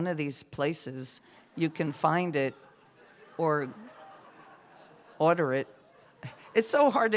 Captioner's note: laughter